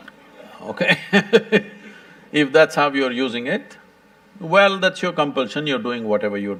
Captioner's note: few laugh; laughs